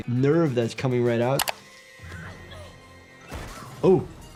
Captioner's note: dramatic music; Jill grunting; head smashing